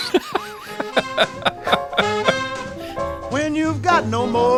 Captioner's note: laughing